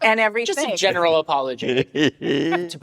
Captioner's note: laughs